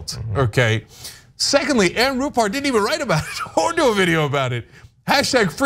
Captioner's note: laugh